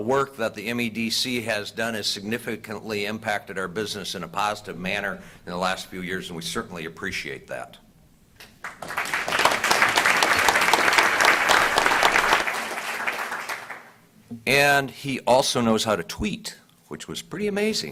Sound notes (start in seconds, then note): 11.1 applause